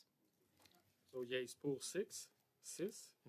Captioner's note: speaking French